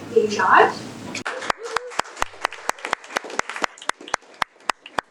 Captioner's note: audience applauding